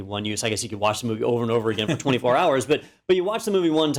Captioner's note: laugh